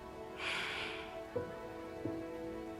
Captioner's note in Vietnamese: thở dài